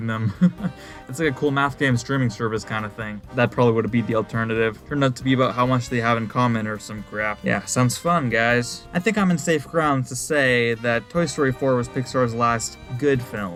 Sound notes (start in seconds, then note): 0.2 laugh